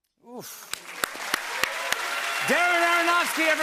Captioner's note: cheers and applause